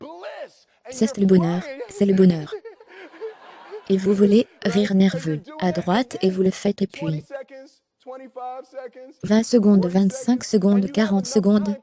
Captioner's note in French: rire nerveux